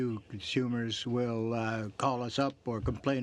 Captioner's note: speaking French